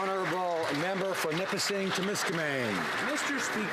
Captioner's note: some Applause